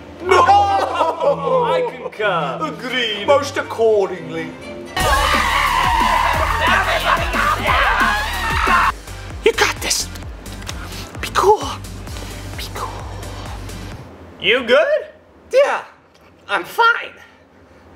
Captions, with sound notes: (chuckling) - I concur. - Agreed. - Most accordingly. (screaming) (panic mumbles) - Everybody calm down! - You got this. Be cool. Be cool. - You good? - Yeah, I'm fine.